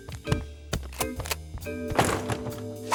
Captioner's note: rifle cocks; door bangs